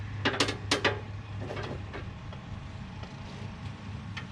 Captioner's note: metal clanging